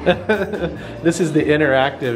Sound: laughing

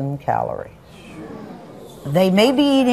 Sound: audience groans

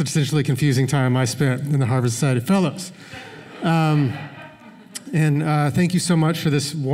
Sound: laughter

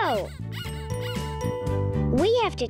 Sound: squeaking

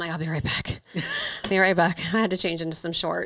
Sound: laughs

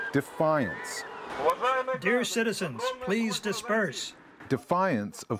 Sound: through translator

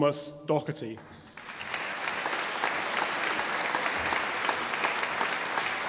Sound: audience applauding

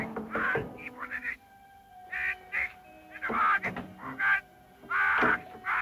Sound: knocking; Hitler speaking in foreign language

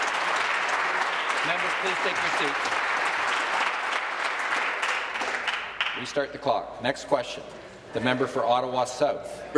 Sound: applause

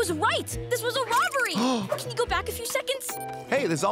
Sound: Gus gasps

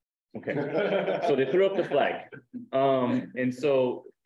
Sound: laughs

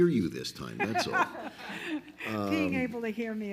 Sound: all laugh loudly

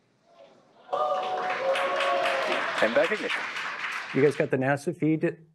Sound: crowd applause

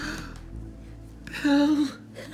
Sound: X gasps

